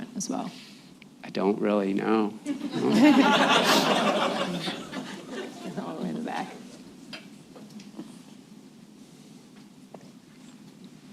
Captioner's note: laughter